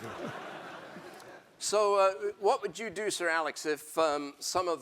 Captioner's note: laugh